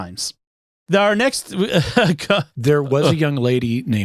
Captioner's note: laughing